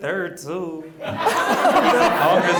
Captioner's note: audience laughs